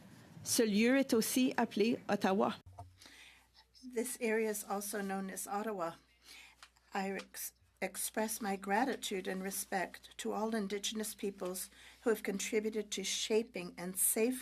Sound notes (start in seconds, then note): 5.2 speaking French